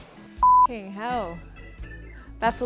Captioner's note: beeps